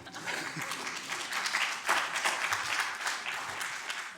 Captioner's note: applause